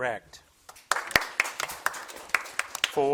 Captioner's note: crowd claps